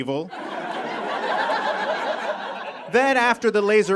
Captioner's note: audience laughs heartily